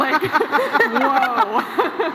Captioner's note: laughs